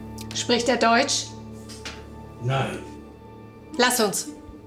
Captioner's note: Fredriech speaking German